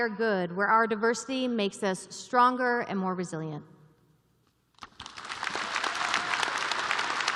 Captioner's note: applause